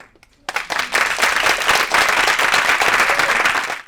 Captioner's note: audience applauding